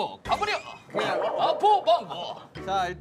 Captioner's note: kekeke